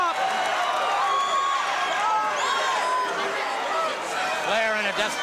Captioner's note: crowd cheering